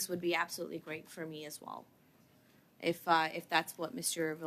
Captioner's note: speaking French